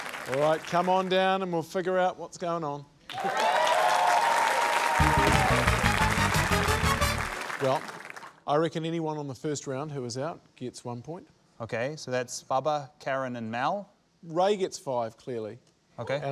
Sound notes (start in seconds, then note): 5.4 cheering, applause